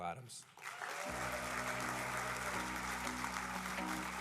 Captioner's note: applause